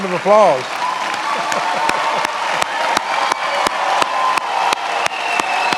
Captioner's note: many applauding